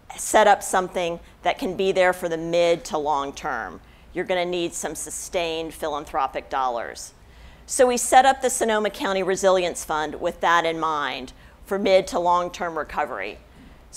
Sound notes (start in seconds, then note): none